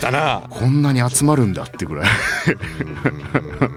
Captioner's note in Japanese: 笑い